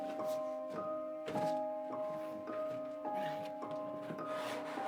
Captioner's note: box clatters; box rustling